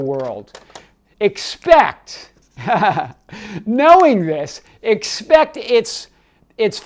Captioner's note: chuckles